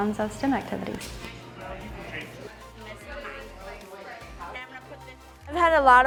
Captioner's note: people talking